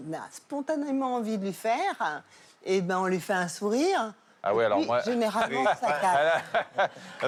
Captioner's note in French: rires